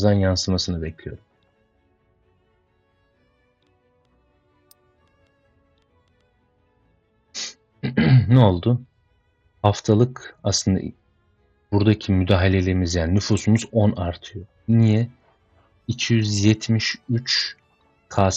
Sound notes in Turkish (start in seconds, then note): 7.8 boğazını temizler; 7.8 homurdanır